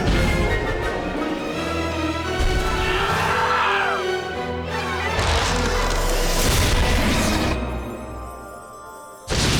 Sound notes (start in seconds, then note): 3.1 yelling